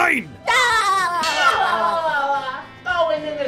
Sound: Bobs Laughing

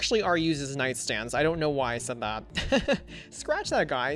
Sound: laughs

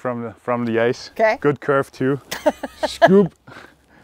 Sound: laughs

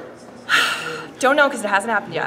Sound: sighs

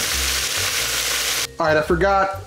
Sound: sizzling

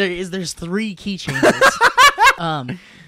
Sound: laughing

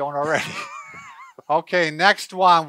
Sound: laughing

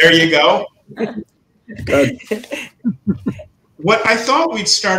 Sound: all laughing

